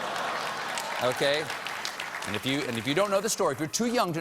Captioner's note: applause